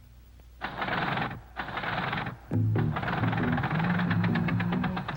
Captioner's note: machine whirring softly